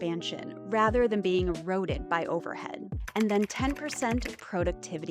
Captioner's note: keyboard clacking